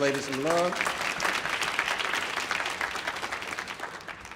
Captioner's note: audience applauding